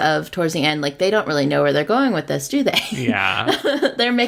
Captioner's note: laughs